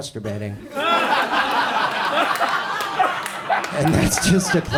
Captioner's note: audience laughs